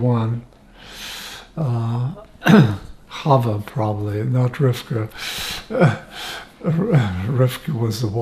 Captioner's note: laughing